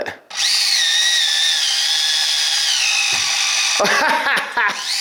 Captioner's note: wheels whirring; laughs